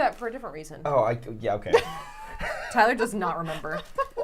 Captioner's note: laughs